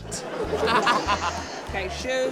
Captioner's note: laughter